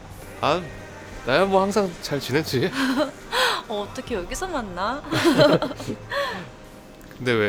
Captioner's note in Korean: 웃음